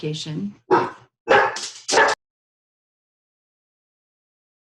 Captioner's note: dogs barking